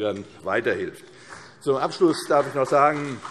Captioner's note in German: Beifall CDU